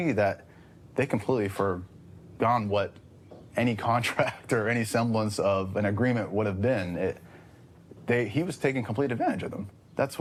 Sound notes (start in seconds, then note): none